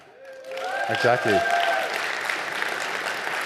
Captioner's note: audience applauding